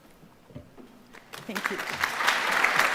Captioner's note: audience applauding